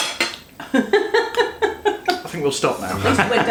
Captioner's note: laughs